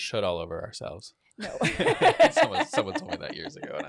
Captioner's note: laughs